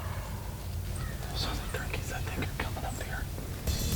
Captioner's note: whispering